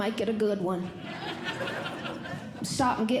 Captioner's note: audience Laughing